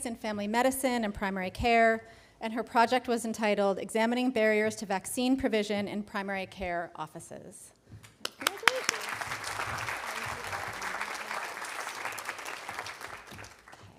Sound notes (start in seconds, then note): 10.0 audience applauding